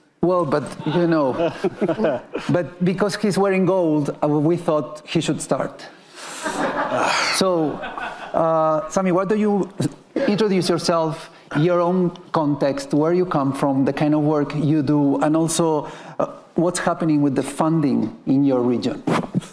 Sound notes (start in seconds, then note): 0.7 laughing; 5.7 attendees laughing; 6.9 sighing